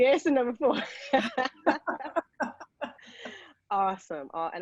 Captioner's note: laughing